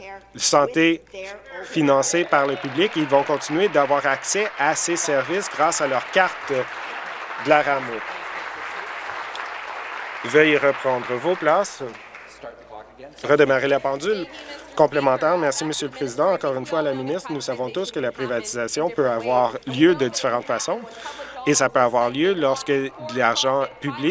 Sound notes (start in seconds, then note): 6.6 applause